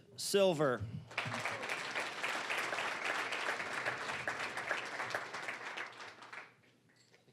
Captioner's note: applause